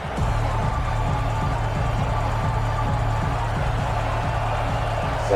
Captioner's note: crowd Noises